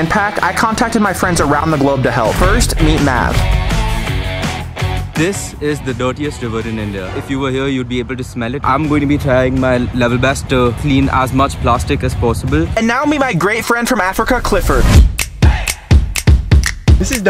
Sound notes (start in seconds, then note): 3.1 exciting music; 7.5 dramatic sound; 14.7 exciting music continues